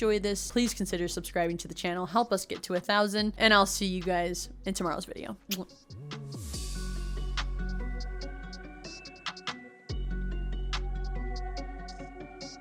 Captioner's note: kiss